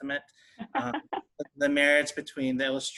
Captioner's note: laughing